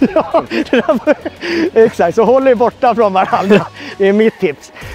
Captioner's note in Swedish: Skratt